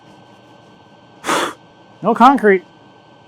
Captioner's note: blows